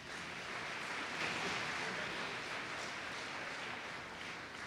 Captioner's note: applause